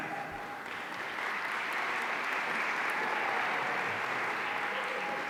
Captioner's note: audience applauding